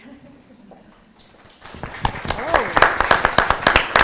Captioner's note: applause